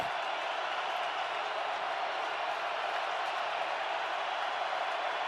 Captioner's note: cheering